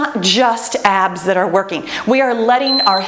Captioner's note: timer beeps